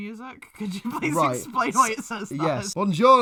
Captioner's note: laughs